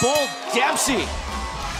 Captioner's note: bell ringing